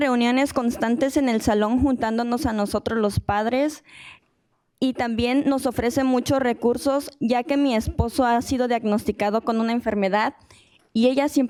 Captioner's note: speaking in spanish